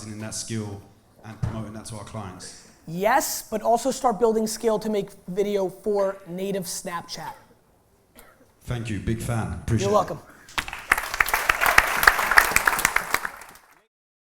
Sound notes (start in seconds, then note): 10.5 applause